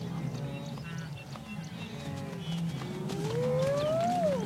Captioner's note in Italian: cinguettii